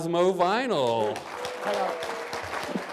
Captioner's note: applause